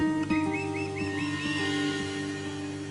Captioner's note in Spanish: Silbidos